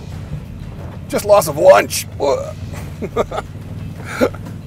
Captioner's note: chuckles